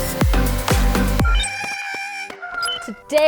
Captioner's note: porg wailing